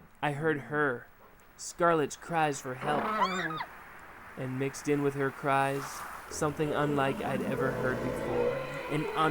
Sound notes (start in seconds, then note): 2.9 Scarlett screaming